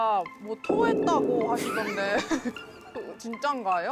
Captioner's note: disbelieving tone